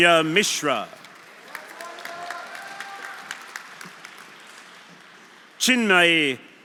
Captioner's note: audience applauding; audience cheering